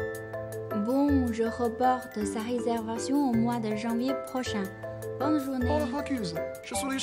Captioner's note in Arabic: فرنسي